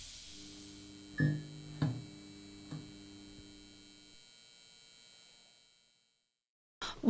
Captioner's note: light bulb turning on and electrical hum sounds